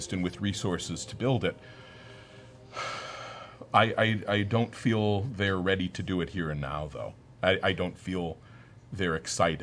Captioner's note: sighs